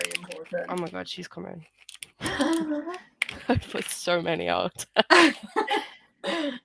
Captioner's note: laughter